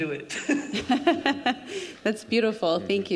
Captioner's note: group laughing